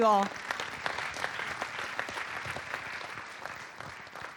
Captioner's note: audience applauding